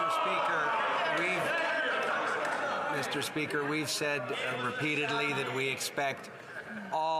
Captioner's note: some Applause